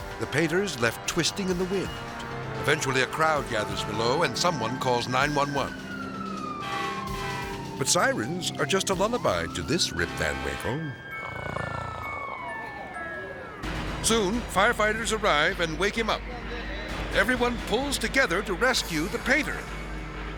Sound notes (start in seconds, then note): 6.6 sirens wailing; 11.0 person snoring